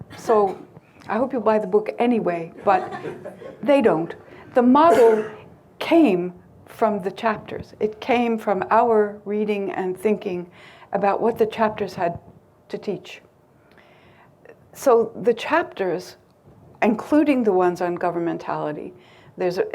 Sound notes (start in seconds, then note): 2.6 crowd lightly laughing